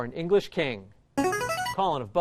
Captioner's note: chiming